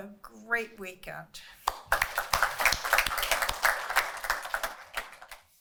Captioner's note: applause